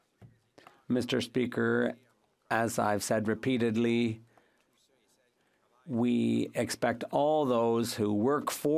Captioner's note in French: voix de l'interprète